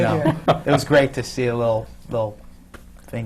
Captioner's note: laughs